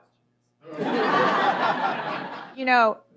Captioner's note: laughter